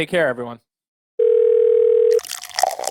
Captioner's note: phone ringing; liquid pouring